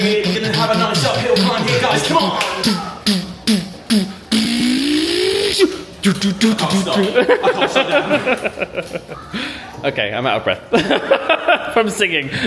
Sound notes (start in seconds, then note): 3.7 imitates workout music; 8.8 laughs